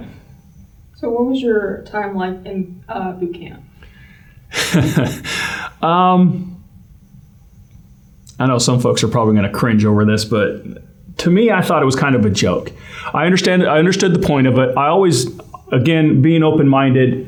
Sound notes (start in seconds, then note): 4.5 laugh